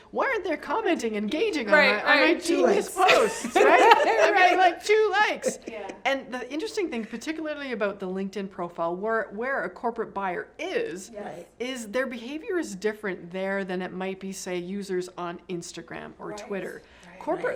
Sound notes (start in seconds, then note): 5.0 laughing